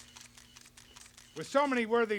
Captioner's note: cameras click